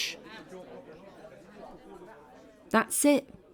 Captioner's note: background chatter